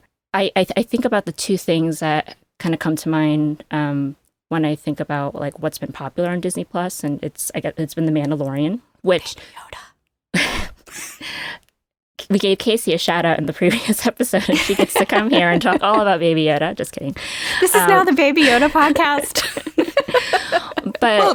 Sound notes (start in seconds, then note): 10.0 whispers; 11.5 chuckling; 18.4 laughter